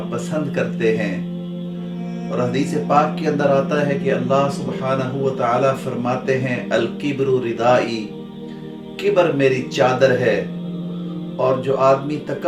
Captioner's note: Arabic